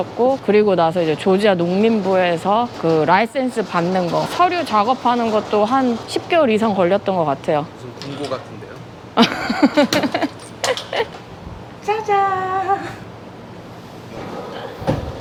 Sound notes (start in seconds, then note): 9.2 Laughs